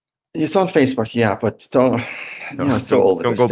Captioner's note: sighs